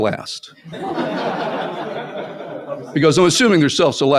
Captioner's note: laughter